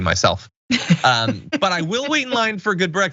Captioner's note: laugh